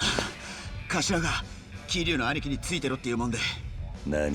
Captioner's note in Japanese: 息をのむ音